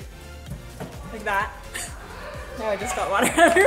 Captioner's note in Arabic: ضحكات خافتة